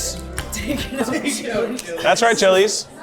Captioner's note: laughs